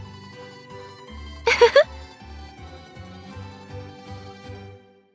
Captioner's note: laugh